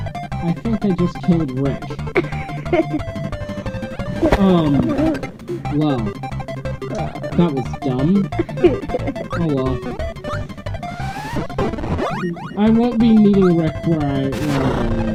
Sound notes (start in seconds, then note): 1.8 chuckles; 8.2 giggles more